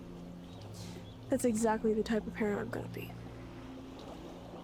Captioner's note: inhales